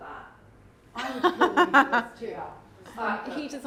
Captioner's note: chuckles